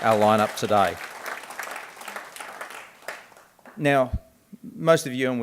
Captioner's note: clapping